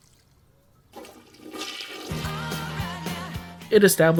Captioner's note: light urinating; toilet flushing